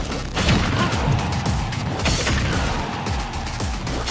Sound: in-game sound effects

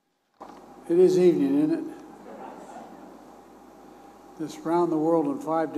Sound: laughter

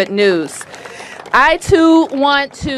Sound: applause

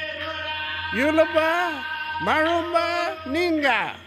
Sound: man speaks in indigenous language

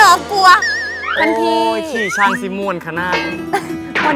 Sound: Tay use Thai North-East accent

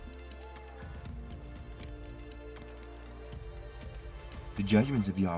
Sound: owl hoots, flames crackle

